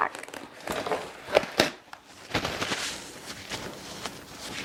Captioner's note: paper rustling